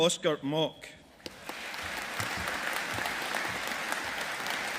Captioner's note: audience applauding